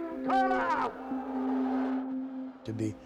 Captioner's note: audience jeering